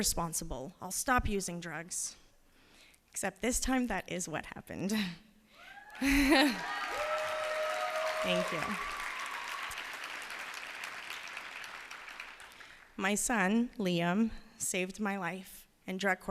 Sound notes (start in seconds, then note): 3.0 cheers and applause